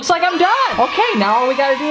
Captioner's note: cheering